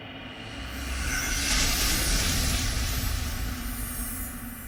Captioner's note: high-pitched ringing